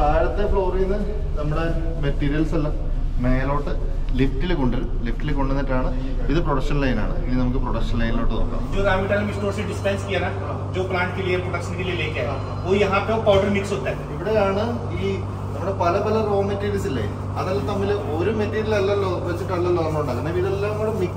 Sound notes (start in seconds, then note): 9.7 conversation in Hindi